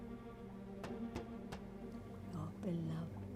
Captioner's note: knocks